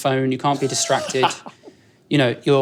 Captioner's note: laughs